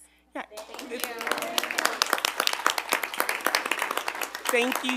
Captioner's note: group applauding